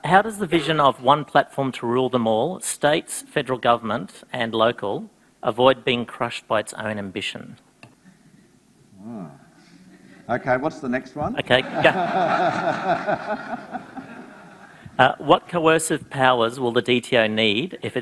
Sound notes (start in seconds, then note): 9.0 groans anxiously; 11.4 audience laughs